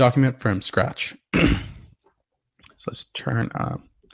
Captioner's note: cough